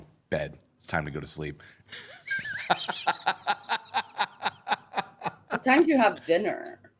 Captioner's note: laughs